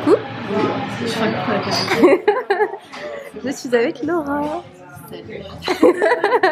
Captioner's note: laughs